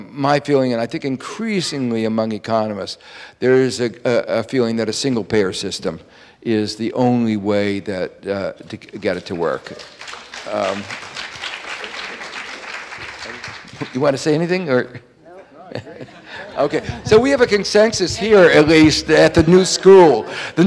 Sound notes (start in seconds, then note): 10.6 audience applauding